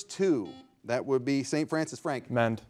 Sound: buzzer ringing

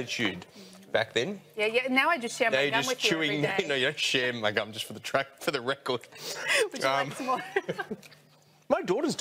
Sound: both laugh

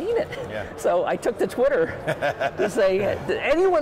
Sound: laughing

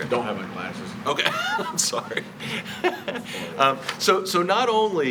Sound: laughs

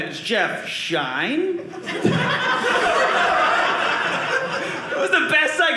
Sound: audience laughing

